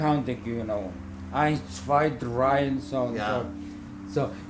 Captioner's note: german counting